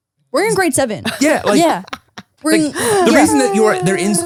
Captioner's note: laughs